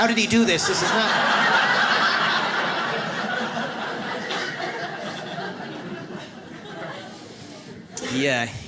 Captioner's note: audience laughs